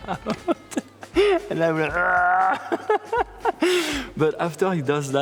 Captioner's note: laughing; grunting